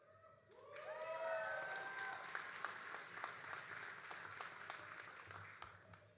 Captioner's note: all applauding and cheering